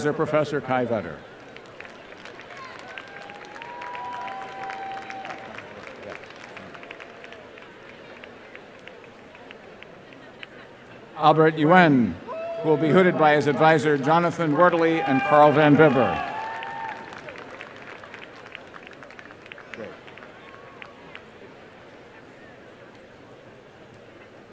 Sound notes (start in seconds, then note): 8.3 applause; 17.7 applause and cheering